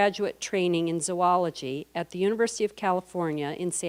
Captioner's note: none